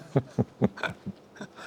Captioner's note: laughing